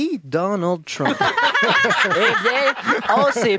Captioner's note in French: rires